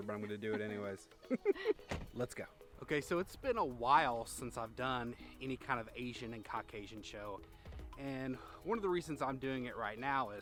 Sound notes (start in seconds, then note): 0.0 both chuckling; 1.8 door slamming